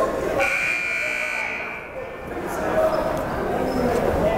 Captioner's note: buzzer blaring